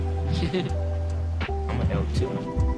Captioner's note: chuckling